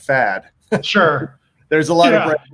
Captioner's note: laughing